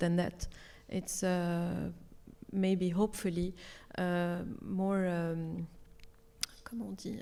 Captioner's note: speaks French